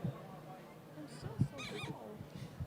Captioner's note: chattering